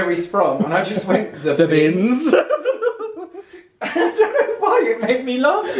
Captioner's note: laughs